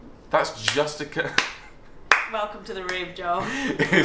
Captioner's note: claps